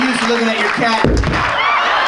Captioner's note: booming; audience laughing